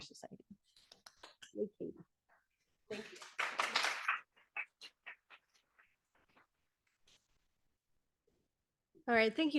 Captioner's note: audience applauding